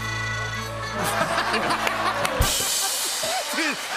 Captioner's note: laughter